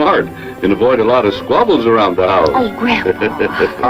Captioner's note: grandpa laughs